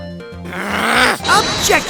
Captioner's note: frustrated growl!